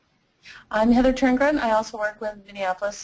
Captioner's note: voiceover